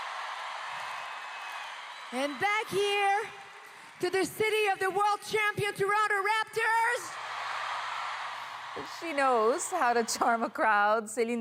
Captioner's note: cheers and Applause